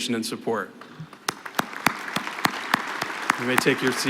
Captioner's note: applause